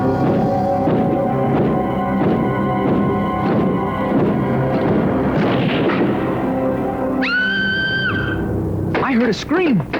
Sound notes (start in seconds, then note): 7.2 screams